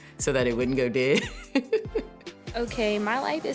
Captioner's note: laughs